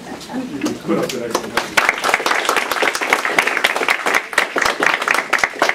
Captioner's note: applause